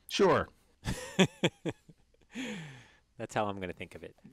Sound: laugh

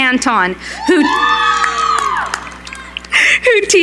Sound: cheering

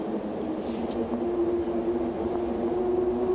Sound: light footsteps

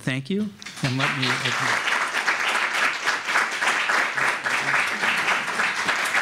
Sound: applause

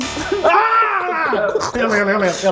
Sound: growls

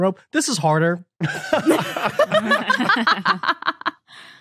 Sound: group laughing

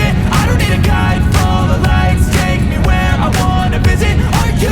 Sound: heart pounding

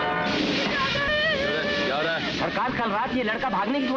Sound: crying

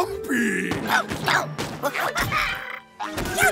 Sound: stomping; chomping

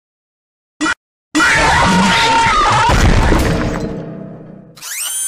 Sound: Chica cut-off scream; Toy Freddy's scream, Mangle clunks in the distance; whirring

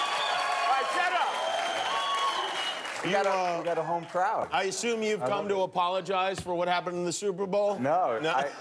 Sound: cheers and applause

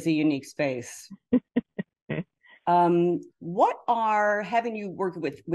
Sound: chuckling

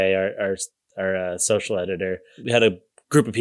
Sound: none

